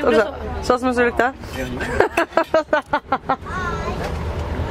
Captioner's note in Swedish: Skratt